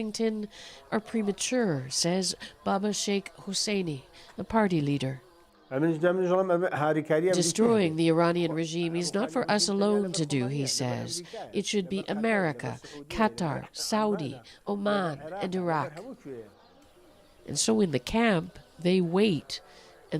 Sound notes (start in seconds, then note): 8.0 speaking alternate language